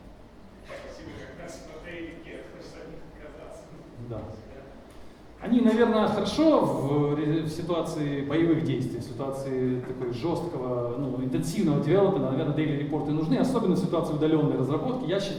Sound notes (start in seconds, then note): 1.0 speaking in foreign language